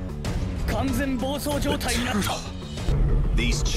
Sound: turtle speaks Japanese

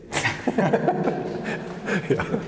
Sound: laughter

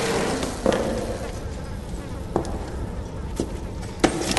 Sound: footsteps close in

